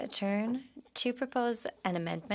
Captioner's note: speaking French